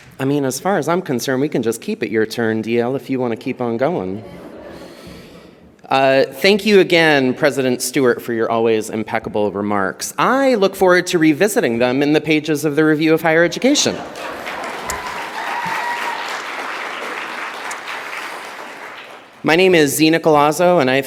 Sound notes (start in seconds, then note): 4.1 audience laughs; 14.0 audience applauds